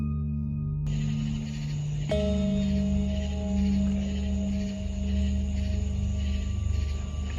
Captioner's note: tense music; crickets chirping